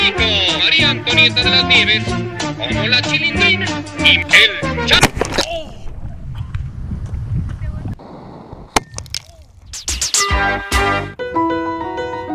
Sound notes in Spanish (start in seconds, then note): 8.2 Explosion